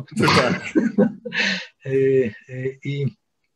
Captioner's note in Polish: śmiech